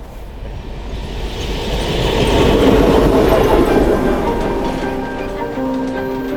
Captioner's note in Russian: шум проезжающего поезда